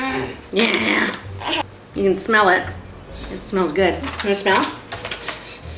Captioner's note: baby sniffs; sniffs